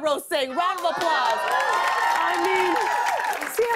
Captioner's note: cheers and applause